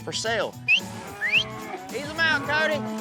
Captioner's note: whistling